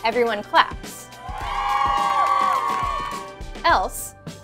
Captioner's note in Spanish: aplausos